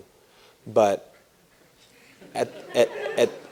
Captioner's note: laughter